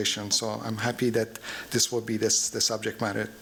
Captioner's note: none